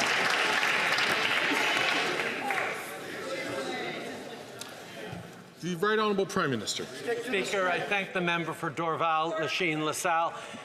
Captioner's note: some Applause